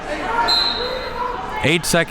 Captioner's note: whistle blows